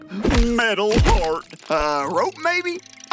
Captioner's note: none